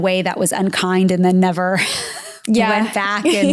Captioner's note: laughs